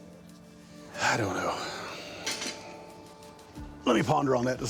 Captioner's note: sighs